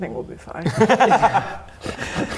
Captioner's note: you-first laughter